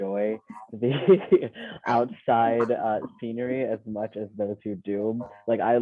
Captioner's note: laughing